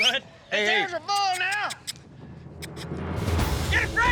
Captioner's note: makes squeaky sounds